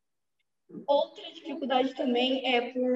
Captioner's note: speaking portuguese